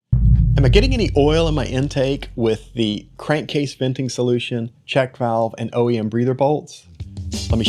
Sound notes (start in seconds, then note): 0.0 booming